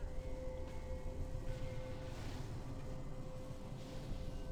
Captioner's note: none